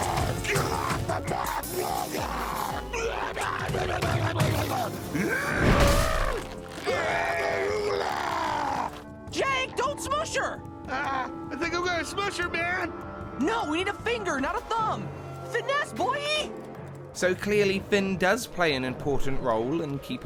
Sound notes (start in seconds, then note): 0.0 angry Monster Sounds; 5.4 stompy Monster Noises